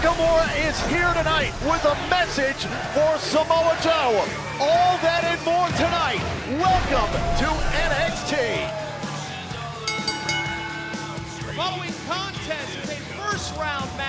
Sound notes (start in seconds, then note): 11.6 bell ringing